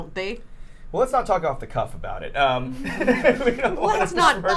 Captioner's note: laughs